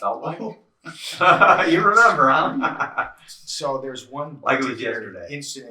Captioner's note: laughs